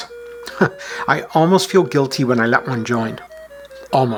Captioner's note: chuckles